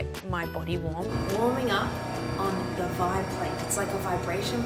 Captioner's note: vibrating hum